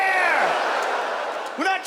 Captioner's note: audience laughs